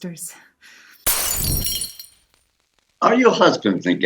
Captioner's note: sound of glass breaking and smouldering fire